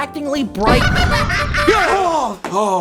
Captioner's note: clown horns, laughter